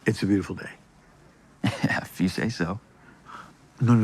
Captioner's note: laughs